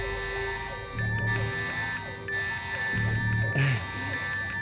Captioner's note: VPN beeps